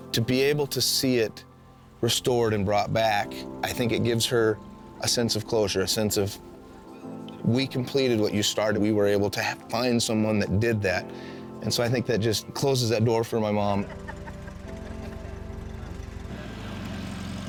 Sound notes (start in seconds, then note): 13.7 chuckling